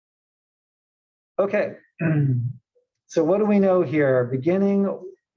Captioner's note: cough